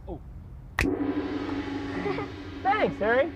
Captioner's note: gong; finger snaps; laughter